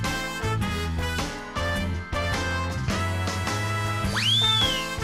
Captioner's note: screech